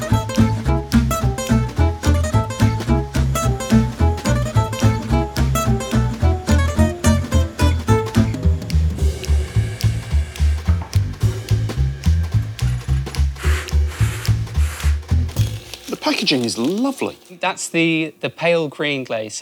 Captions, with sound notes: (gas vents) (scrapes roughly) The packaging is lovely. That's the pale green glaze.